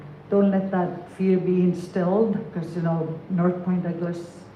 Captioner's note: none